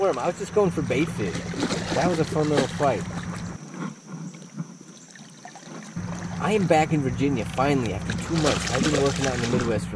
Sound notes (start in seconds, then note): 3.8 water splashing